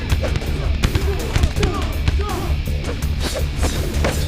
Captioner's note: dramatic music; sticks thudding